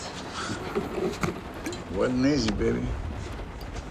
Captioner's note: chuckles